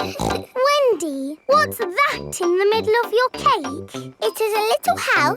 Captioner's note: snorts